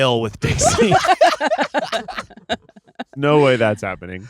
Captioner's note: everyone laughing